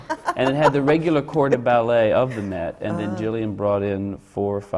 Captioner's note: laughs